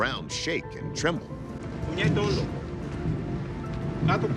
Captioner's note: rhythmic deep thumping; speaking Greek